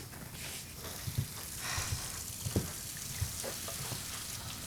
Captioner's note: water on